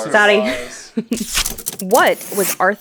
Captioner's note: laughing